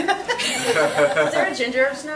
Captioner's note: laughs